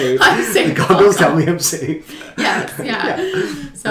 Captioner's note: laughs